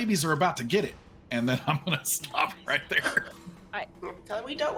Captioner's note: chuckles